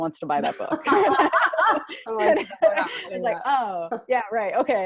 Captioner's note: laughter